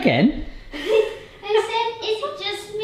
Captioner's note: laughing